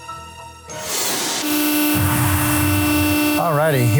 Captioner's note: pensive music; machine whirring